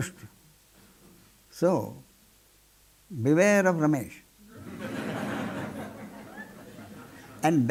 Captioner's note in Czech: smích